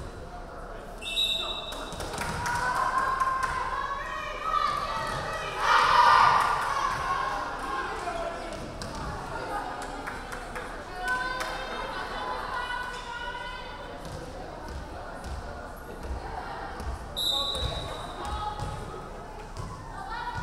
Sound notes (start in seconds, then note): 1.0 referee whistling; 3.4 players chanting; 17.2 referee whistling